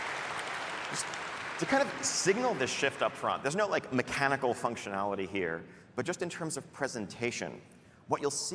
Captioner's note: applause